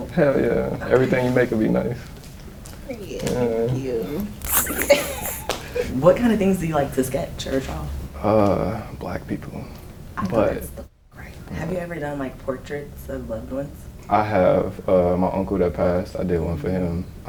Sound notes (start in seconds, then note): 3.7 flirty giggles